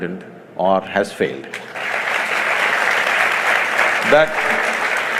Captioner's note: applause